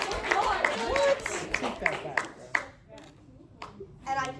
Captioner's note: cheering